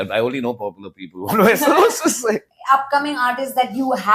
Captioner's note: laughs